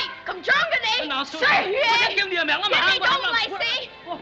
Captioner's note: both Shouting In Foreign Language